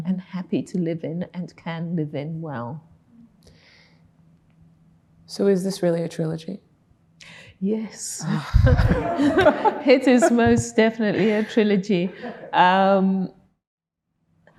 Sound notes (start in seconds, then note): 8.4 laughing; 8.6 audience laughing